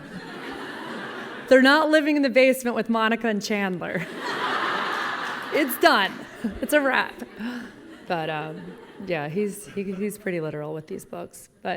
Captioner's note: laughing; laughing